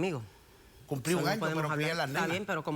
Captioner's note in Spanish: Hablan al unísono